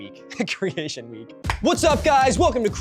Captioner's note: laughs